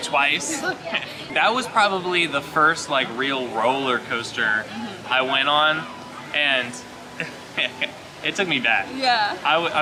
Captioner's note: laughing